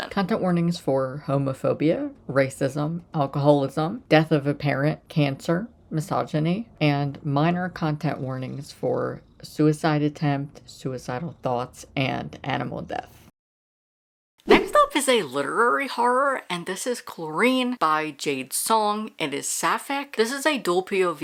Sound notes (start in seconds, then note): 13.1 silence; 13.9 whoosh